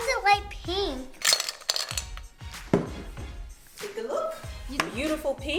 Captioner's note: clunking